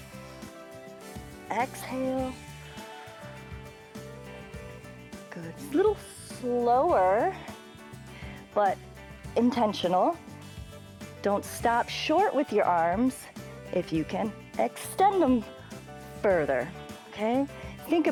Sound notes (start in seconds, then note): 2.7 exhales